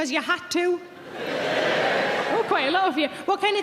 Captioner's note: audience cheering